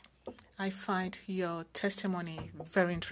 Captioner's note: speaking French